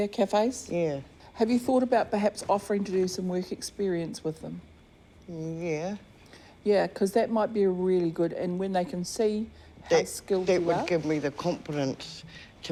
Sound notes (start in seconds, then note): none